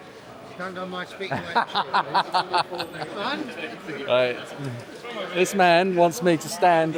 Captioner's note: laughing